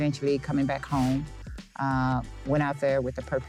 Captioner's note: air whooshing